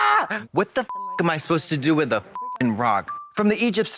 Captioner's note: beep